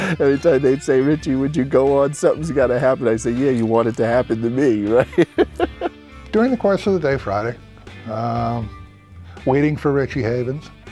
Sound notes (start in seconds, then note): 0.0 laughing; 4.9 chuckling